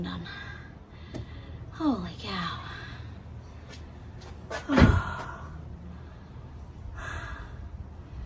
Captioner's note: sighs heavily; breathes heavily; door slams; sighs again